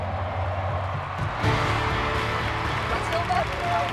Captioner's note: crowd cheers